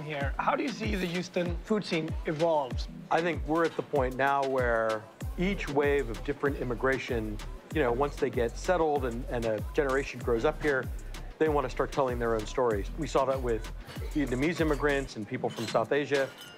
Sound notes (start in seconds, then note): none